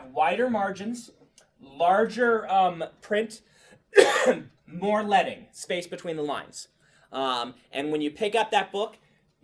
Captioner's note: coughs